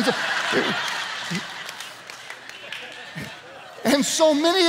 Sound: congregation laughs

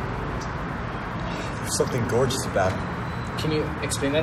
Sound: sigh

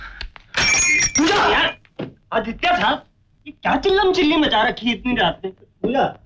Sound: door slams

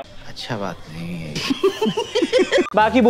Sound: laughing

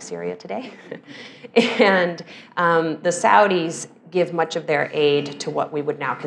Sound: laugh

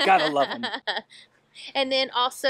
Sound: laughs

